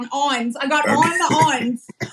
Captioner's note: laugh